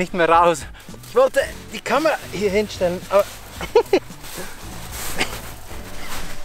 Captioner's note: laughter